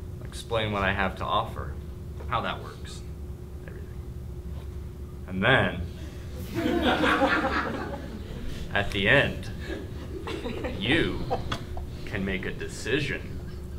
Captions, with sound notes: I'll explain what I have to offer, how that works, everything. And then (laughing) at the end, you can make a decision